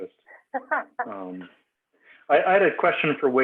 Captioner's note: laughs